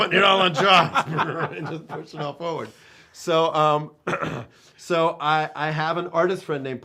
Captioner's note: laughing